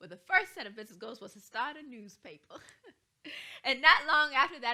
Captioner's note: chuckles